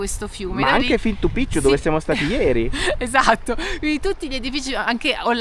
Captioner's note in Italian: risate